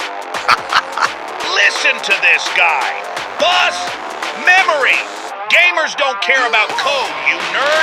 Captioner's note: laughing